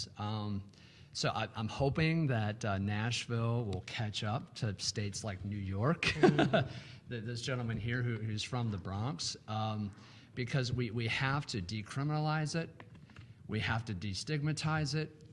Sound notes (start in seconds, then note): 6.1 laughing